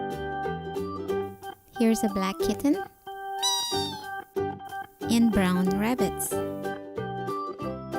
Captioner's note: meow!!!